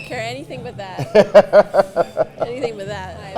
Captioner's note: Santa laughing